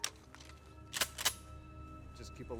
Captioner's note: gun cocking